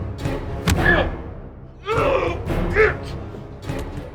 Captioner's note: ominous music continues; kick thuds; Tucker groaning